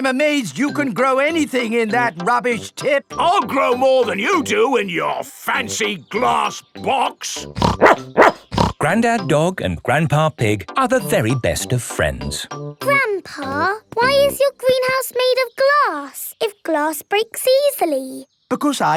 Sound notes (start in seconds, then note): 7.5 snorts; 7.6 barks